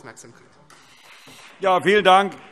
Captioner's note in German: Beifall Freie Demokraten